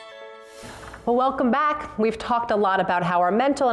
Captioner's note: whisper